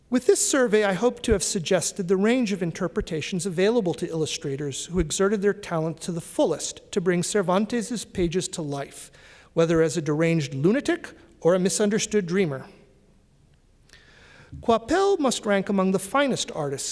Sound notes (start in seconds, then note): none